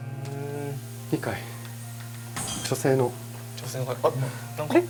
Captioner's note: sound of a bottle